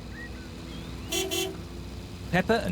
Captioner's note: horn honks